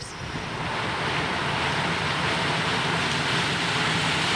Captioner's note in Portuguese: Maquina agrícola cortando trigo